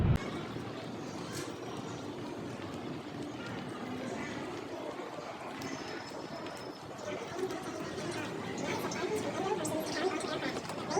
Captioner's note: background noise at Airport